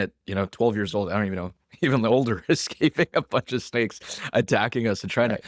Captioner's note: laughs